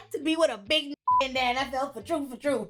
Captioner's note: beep